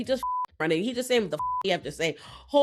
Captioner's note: beep